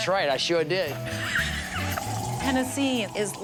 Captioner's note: laughing